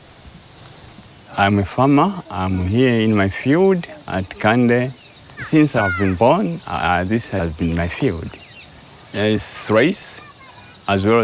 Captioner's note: birds singing